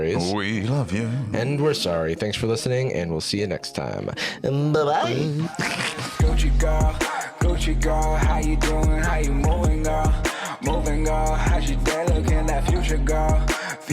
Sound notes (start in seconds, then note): 5.0 snickers; 6.2 outro music